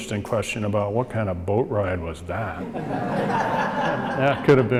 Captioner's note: audience laughs